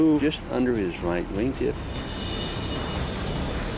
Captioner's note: jet engine noises